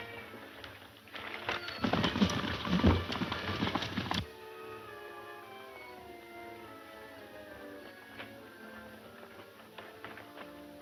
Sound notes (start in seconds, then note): 1.9 horses galloping; 4.3 dramatic music